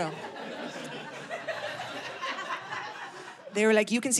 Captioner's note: audience laughing